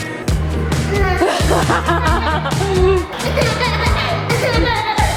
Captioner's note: laughing